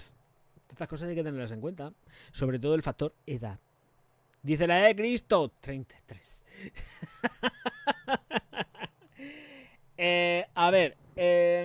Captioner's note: laughs